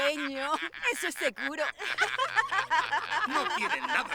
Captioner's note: laughter